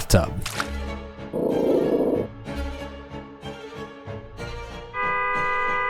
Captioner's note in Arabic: هدير كلب; موسيقى أوركسترا متفائلة; بوق بوق